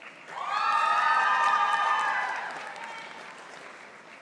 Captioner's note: audience applauding